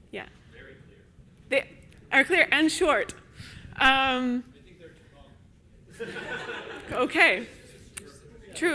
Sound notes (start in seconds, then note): 6.0 audience laughs